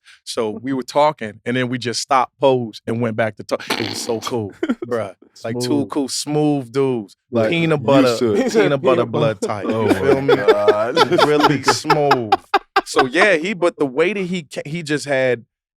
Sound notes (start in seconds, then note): 3.6 chuckles; 10.3 laugh